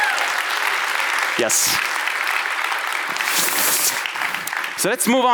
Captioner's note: audience applauds